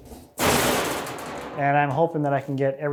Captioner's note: metal clangs